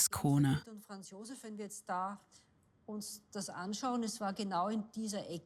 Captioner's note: speaks in foreign language